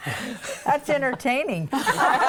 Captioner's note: laughing